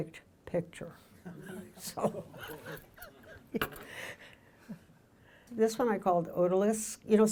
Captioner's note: audience laughing; laughing